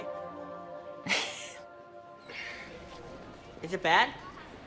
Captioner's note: Sadie laughing